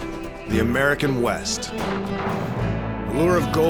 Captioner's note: gunshot